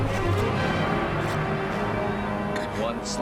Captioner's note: dramatic orchestral music; sword unsheathed